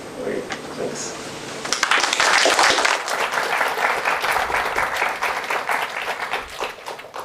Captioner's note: applause